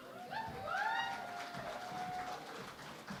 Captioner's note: cheering and Applause